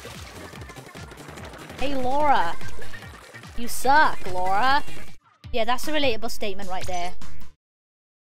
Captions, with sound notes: *American accent* Hey, Laura. You suck, Laura. Yeah that's a relatable statement right there.